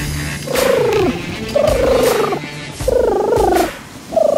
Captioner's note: trilling